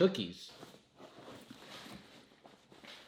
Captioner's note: rustling